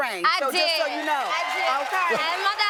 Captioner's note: audience cheering